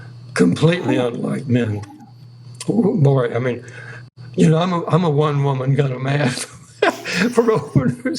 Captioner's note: laughter